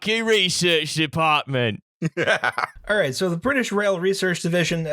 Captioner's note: cockney voice; laughter